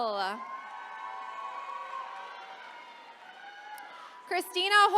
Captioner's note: attendees cheering